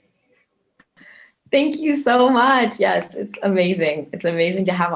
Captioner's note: snapping fingers